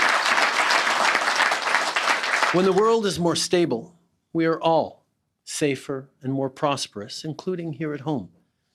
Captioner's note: applause